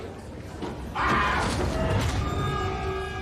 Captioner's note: screams